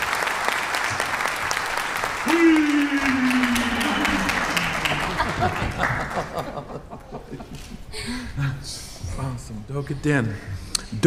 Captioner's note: applause